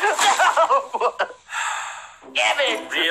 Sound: giggling; gasps

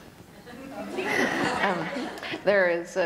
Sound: laughter

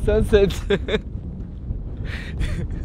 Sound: laughter

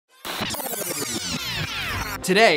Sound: film rewinding

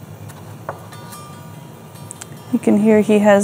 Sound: chimes ringing

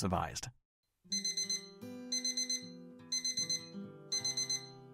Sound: alarm clock ringing

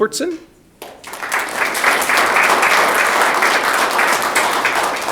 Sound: audience clapping

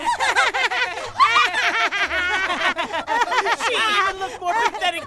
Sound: laughing

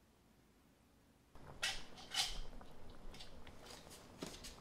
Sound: water boiling

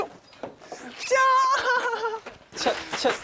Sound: excited

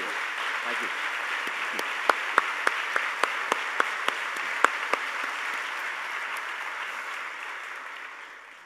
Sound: applause

